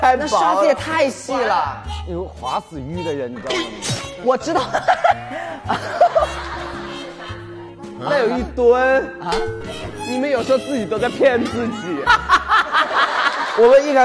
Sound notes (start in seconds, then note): 4.3 laugh out; 12.0 hahahahahaha